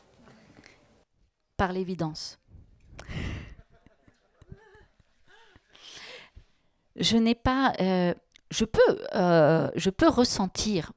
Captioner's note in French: elle rit